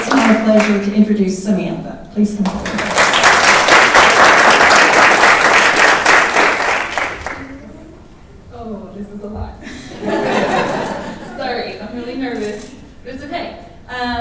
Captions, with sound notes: So it's my pleasure to introduce Samantha, please come forward. (audience applauding) - Oh this is a lot. (audience laughing) Sorry, I'm really nervous, but it's OK!